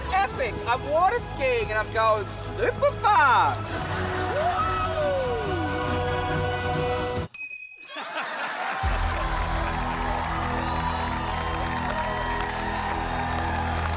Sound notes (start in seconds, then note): 6.8 ting!; 7.8 laughter and applause